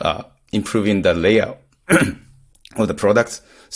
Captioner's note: clears throat